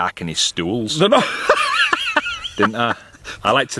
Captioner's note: laughing